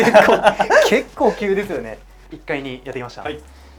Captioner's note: laughs